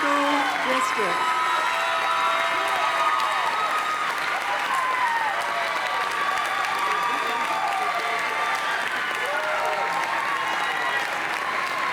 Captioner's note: cheers and applause